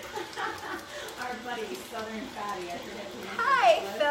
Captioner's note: laughs